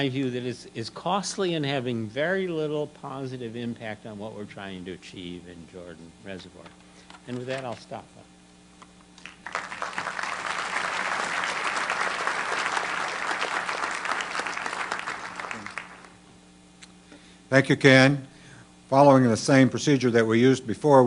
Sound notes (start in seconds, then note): 9.2 applause